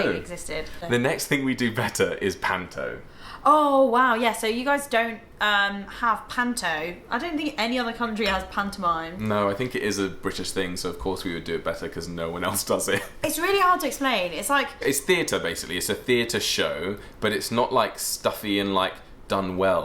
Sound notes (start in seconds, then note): 13.0 laughs